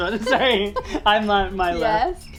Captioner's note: laughing